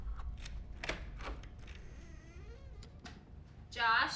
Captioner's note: lock clicks; door creaks